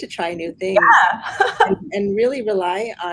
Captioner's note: laughs